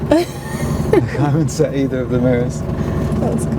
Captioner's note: laughing